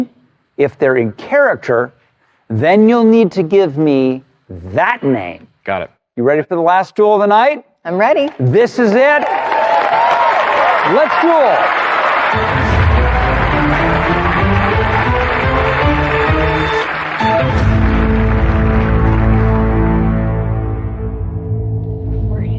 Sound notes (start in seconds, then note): 9.0 cheering and applause; 13.2 dramatic music